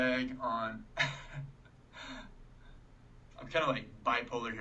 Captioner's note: laughing